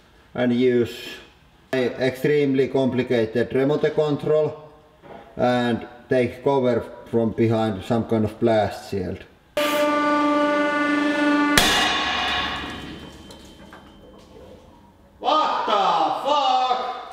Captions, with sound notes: and use an extremely complicated remote control. and take cover behind some kind of blast shield. [Explosion] [High pitched metallic ringing] Vaat. Da. Faaak?